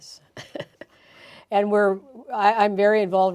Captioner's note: chuckling